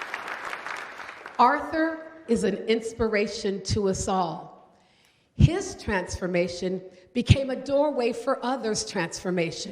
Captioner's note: applause